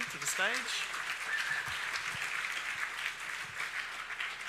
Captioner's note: audience applauds